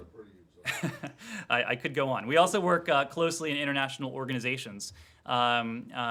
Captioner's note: laughter